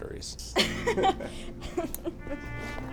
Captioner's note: she laughs